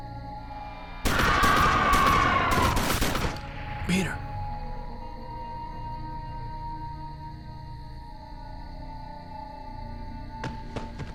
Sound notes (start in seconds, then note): 1.4 gunshots continue